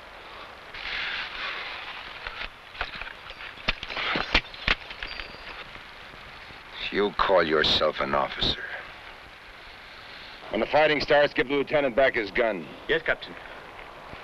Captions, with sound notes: (boot smashing) (pistol rattling) - You call yourself an officer. When the fighting starts, give the Lieutenant back his gun. - Yes, Captain.